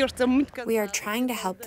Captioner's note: through translator